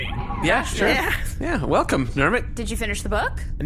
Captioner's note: the crew make various noises of agreement